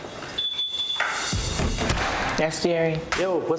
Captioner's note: alarm beeps